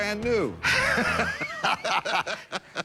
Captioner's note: laughter